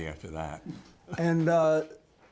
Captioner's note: laughter